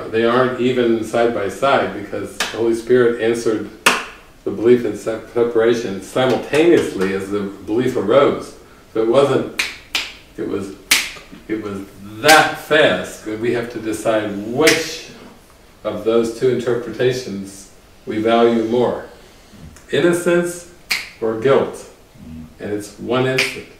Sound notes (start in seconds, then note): 9.5 snaps fingers with both hands- one after the other; 10.9 snaps fingers with both hands simultaneously